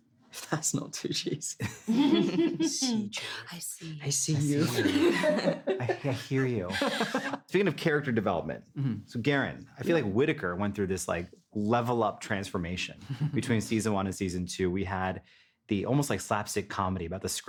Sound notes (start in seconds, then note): 1.6 all chuckle; 1.7 laughs; 4.5 laughing; 4.6 both laughing